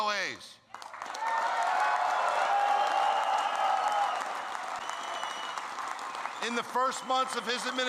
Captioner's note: applause